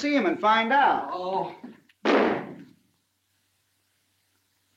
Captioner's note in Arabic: يُغلق الباب بقوة